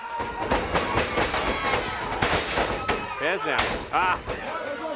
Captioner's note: crowd cheers